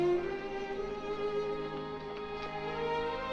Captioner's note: chattering Fades